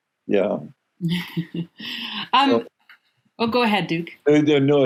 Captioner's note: laughing